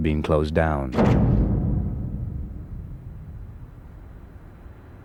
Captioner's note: lock thudding